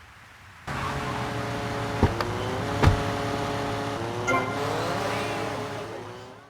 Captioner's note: car engine